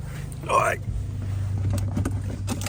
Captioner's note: fat guy noises